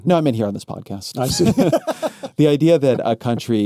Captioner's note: laughs